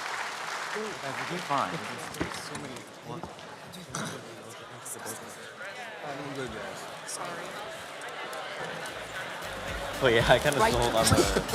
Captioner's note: background Chatter